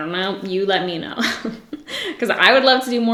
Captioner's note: giggles